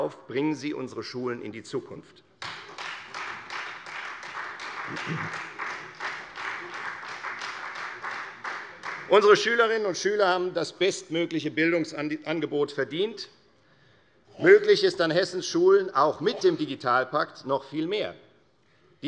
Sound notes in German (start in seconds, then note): 2.4 Beifall